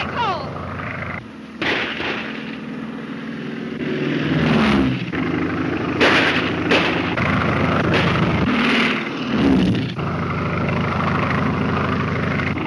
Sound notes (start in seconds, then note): 0.3 airplane engine roaring; 1.6 gunshots; 3.3 airplane engine roaring; 5.9 gunshots; 7.2 airplane engine roaring; 7.8 gunshots; 9.0 airplane engine roaring